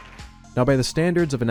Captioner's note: applause